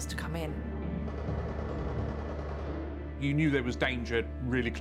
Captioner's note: distant gun fires rapidly